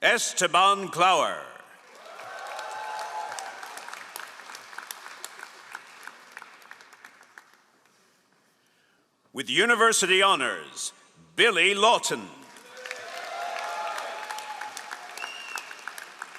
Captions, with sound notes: Esteban Clower. (all applauding) With University Honors, Billy Lawton. (all applauding)